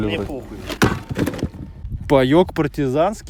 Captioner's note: thud